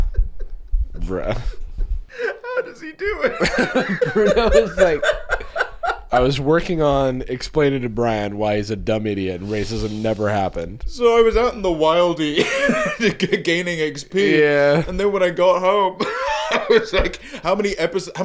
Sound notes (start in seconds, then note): 3.7 laughing